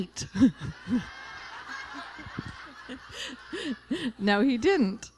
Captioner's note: laughter